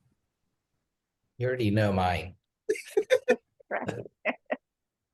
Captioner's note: laughs